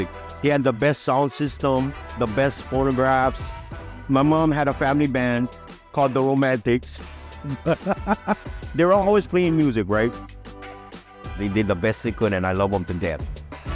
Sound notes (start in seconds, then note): 7.2 laughs